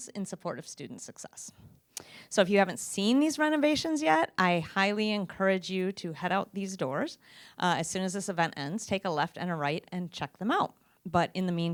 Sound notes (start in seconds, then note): none